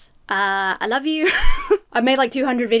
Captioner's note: laughs